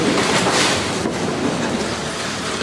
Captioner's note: splash